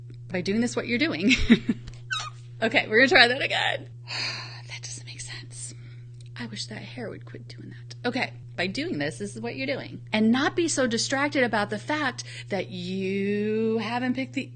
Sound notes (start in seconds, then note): 2.1 laughs; 4.1 exhales